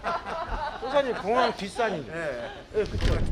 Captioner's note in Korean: 웃음